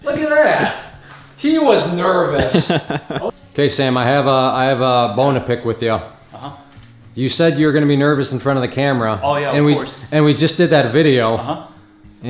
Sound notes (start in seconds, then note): 2.3 laughing